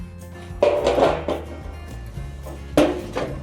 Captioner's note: sound of clanking metal